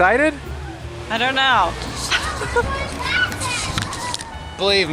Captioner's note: kids yelling